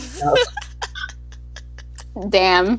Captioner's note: laughter